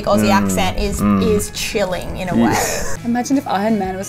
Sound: laughs

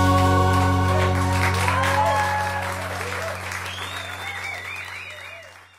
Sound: audience cheers and applauds

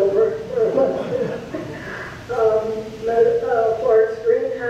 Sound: audience laughs

